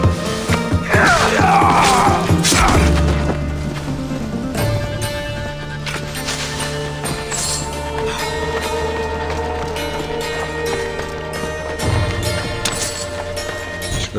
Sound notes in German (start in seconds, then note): 0.5 stöhnen; 0.8 schreien